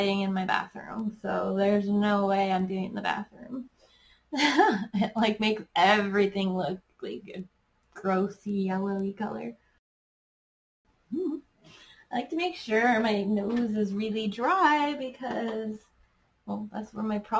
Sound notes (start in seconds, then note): 4.4 giggles; 9.8 giggles